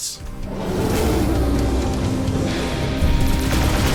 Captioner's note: game sounds